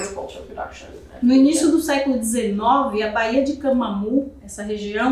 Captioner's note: speaking portuguese